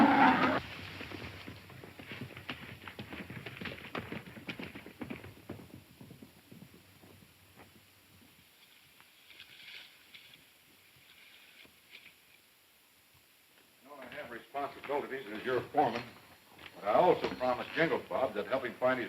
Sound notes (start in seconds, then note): 1.1 horses galloping